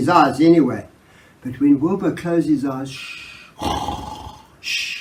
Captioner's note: snore